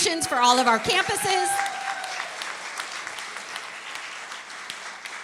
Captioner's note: applause and cheering